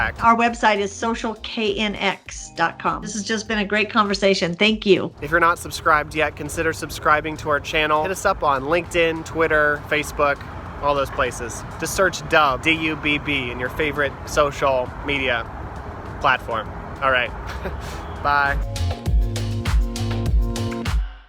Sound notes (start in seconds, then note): 17.4 laughs; 18.2 upbeat music